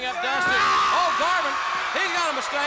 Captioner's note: wrestler yelling